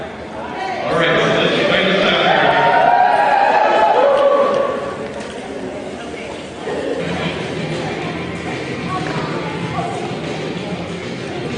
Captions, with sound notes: All right, so let's play this out. [CHEERING]